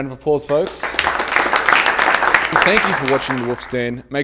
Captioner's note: applause